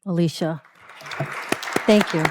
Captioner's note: applause